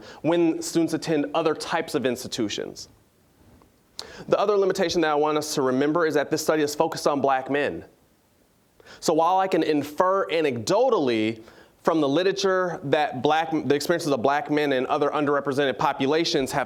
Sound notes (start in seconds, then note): none